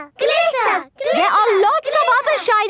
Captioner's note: chanting